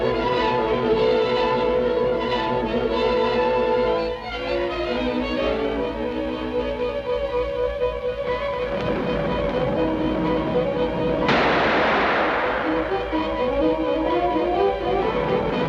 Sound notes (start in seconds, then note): 11.2 gun fires